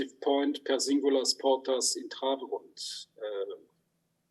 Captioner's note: speaks in Hebrew